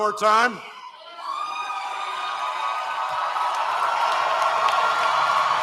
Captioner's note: cheering